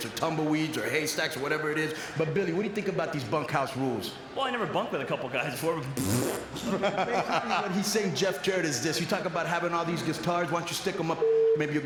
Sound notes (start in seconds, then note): 5.9 blows raspberry; 6.6 Buff laughs